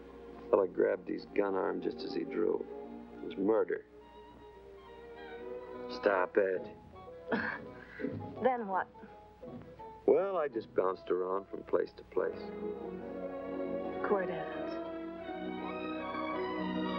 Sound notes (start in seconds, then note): 7.2 laughs; 15.4 romantic music